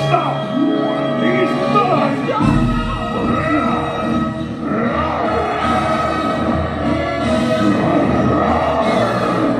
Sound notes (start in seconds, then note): 4.0 Beast growling; 5.2 dramatic music